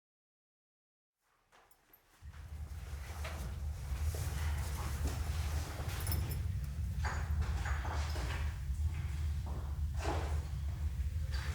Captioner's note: rustling - clacking sounds